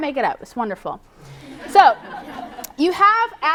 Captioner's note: laughter